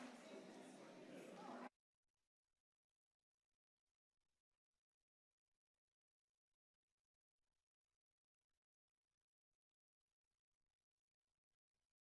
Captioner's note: applause